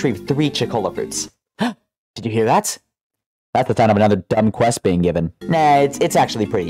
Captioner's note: gasp